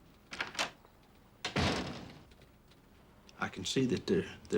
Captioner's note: door opens and closes